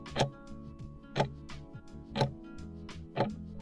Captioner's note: timer ticking